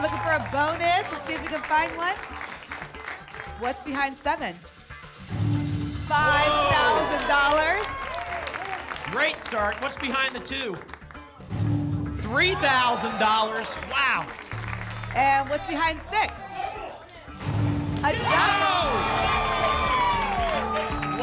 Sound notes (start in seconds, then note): 2.6 applause; 7.7 applause and cheering; 17.3 booms; 19.5 applause and cheering